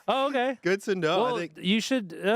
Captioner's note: laughing